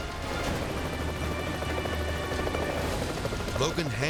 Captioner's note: propellers humming